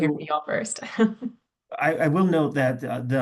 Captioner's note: chuckles